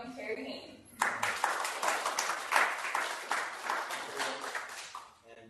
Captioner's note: applause